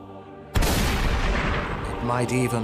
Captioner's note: gunshot